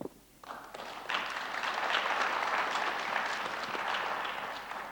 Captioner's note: audience applauds